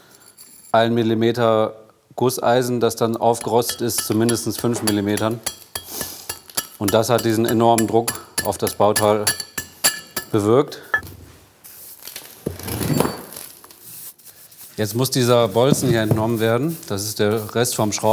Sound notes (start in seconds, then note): 12.9 muffled clinking